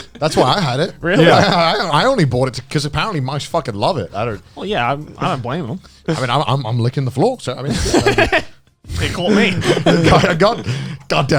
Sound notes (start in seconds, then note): 0.0 laughs; 8.9 laughs